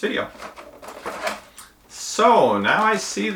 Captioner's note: packaging rustling